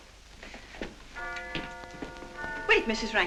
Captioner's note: clock chiming